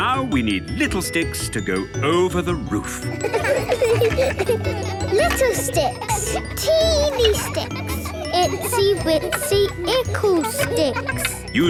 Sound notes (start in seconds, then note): 3.1 laughter